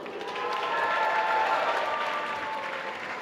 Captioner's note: applause